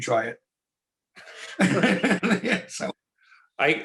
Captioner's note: laugh